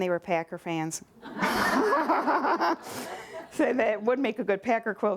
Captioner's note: laughter